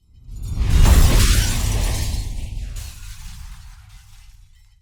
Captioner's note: glass shattering